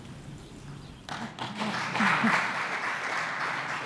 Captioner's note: applause